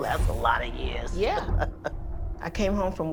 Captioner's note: chuckles